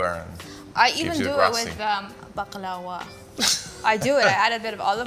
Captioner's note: Yotam laughs